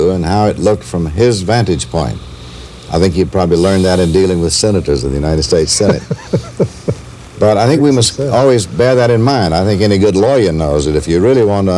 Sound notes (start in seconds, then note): 5.6 laughter